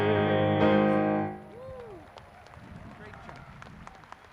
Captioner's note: clapping